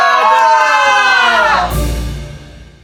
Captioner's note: collective scream